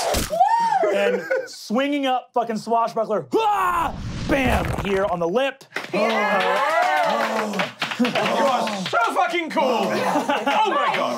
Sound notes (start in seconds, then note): 0.3 cheering; 3.4 shouts; 5.7 clapping and cheering